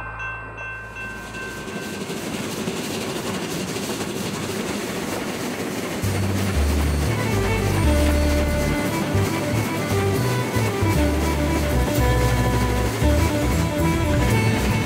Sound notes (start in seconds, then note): 3.9 train alert chiming